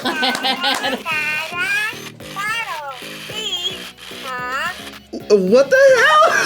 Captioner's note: laughs; Furby babbles; laughs